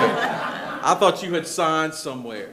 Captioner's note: attendees laughing